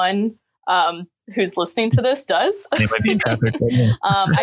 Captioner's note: laughing